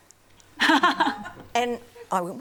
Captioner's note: laughs